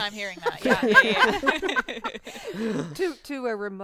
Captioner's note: group laughing